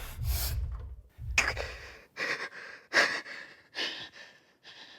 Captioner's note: Max gasping; Ford huffing